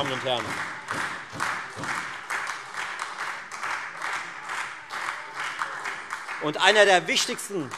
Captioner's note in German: Beifall Freie Demokraten und SPD